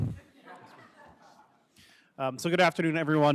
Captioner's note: attendees laughing